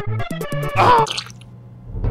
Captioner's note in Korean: 얌냠